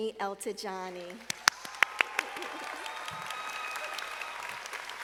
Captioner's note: audience applauding